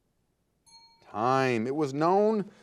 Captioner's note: timer beeping